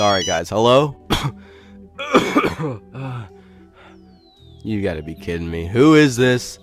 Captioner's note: coughing